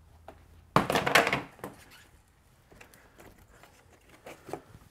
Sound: plastic cover clanks

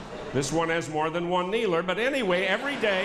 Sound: laughter

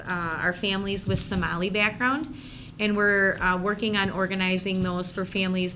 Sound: none

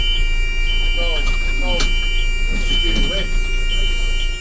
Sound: clamping noises

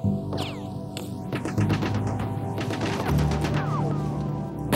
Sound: gunfire rattling

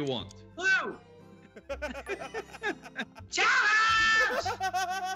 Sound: laugh

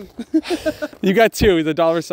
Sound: woman laughing

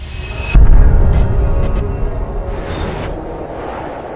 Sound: suspense sound; glitch sounds

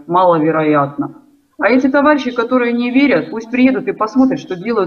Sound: Ukrainian

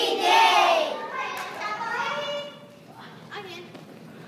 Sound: sounds of kids talking

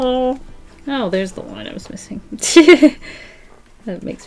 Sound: laughs

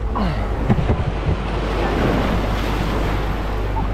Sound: grunts

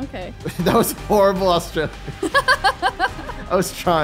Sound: laughing; laughing

